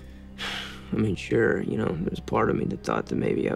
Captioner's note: sighs